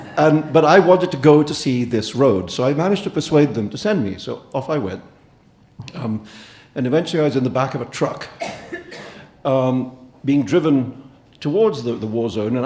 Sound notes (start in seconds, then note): 8.4 audience member coughing